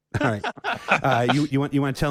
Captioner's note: laughing